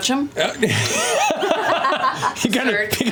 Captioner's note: laughter